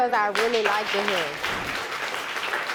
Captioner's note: audience applauding